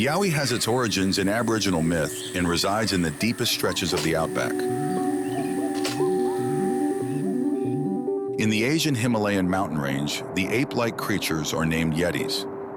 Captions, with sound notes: The Yowie has its origins in Aboriginal myth and resides in the deepest stretches of the Outback. (slides clicking) (ominous music) In the Asian Himalayan mountain range, the ape-like creatures are named Yetis.